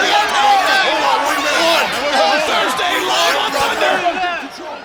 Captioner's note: wrestlers chattering